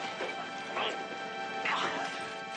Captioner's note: both grunting